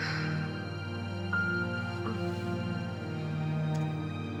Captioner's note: Freddie sighs